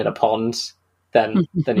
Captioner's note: laughing; laughs